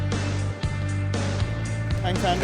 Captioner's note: applause